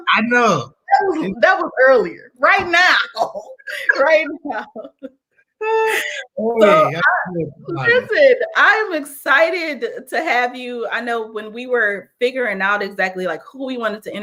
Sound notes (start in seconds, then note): 3.7 laughter